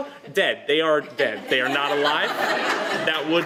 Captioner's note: laughter